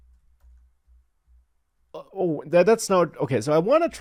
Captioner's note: typing sounds